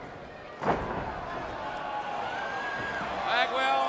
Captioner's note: crowd cheering